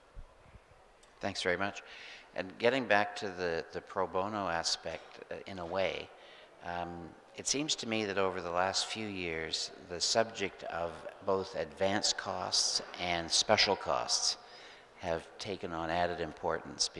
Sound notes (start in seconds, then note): none